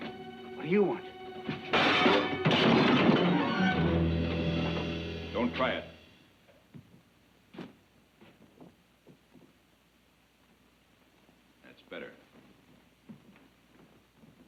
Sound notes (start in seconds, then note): 1.5 dishes clatter; 3.6 dramatic music